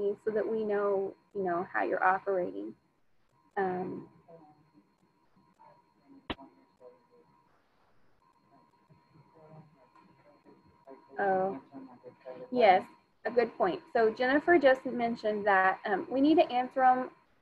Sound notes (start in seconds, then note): 4.6 speaking faintly